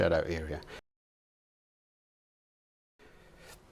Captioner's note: silence